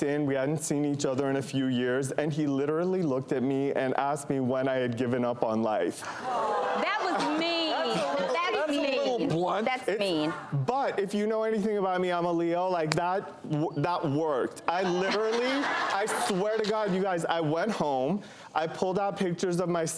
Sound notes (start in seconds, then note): 6.2 crowd boos; 14.7 laughter